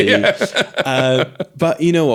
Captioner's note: both laughing